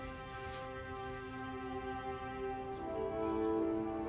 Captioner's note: birds chirping; cinematic music